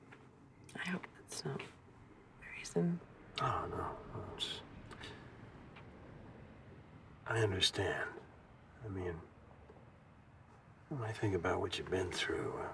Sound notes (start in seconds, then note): none